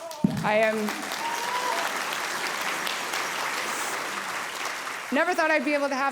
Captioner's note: audience cheering